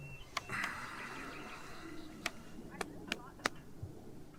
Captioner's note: Chuck sighs